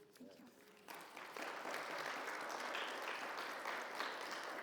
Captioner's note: audience applauds